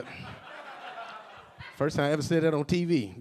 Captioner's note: a few audience members laughing